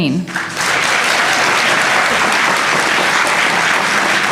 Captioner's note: applause